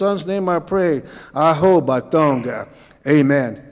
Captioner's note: speaking Cauijoga